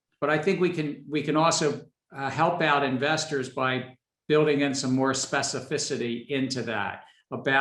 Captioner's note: none